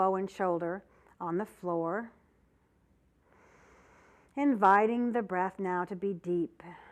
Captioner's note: breath sound; breath sound